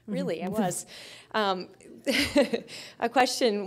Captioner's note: chuckling